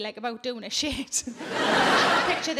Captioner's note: audience laughing